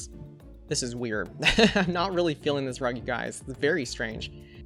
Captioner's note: laughs